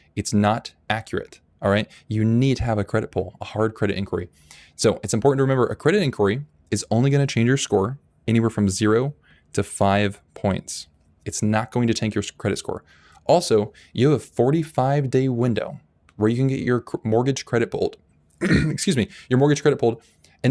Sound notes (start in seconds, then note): 18.4 clearing throat